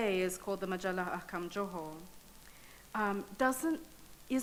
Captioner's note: speaking in foreign language